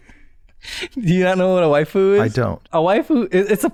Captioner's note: laughter